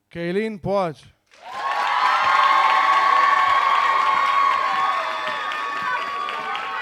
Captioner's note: audience cheering